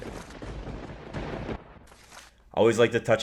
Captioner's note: thunder crash